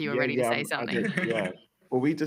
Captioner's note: laughter